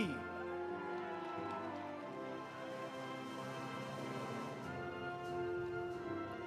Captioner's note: audience cheering; audience applauding